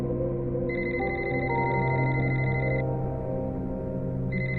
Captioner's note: phone ringing